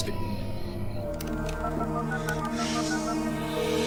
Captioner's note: telephone dialing